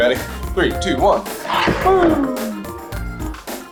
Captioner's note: exclaims